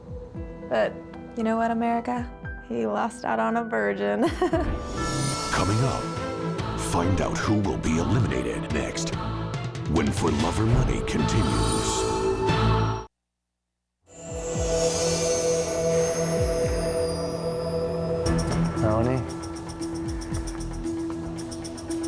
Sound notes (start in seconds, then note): 4.4 laughs; 6.0 dramatic music; 14.1 shimmering tone; 20.0 dramatic music